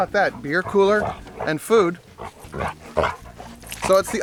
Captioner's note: dogs growling